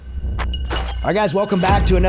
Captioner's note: electronic Beeping